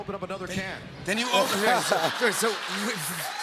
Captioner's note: laughter